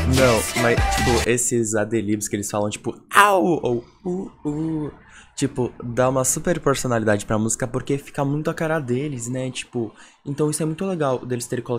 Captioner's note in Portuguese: os gritos